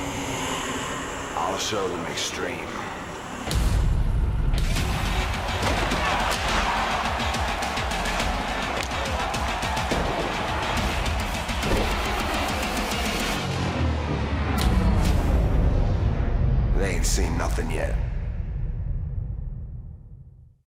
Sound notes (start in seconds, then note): 4.8 cheers and applause